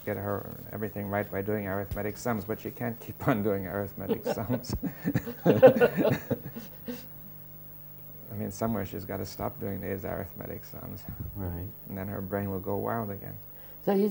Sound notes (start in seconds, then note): 6.7 laughter